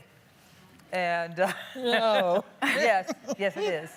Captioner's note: laughing